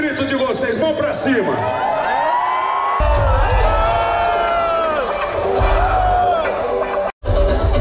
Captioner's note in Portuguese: Gritos